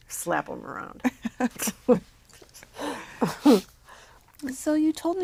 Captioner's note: laugh